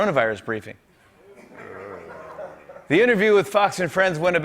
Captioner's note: laughter